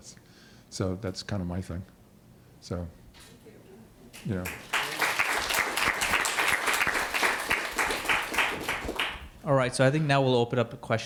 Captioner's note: applause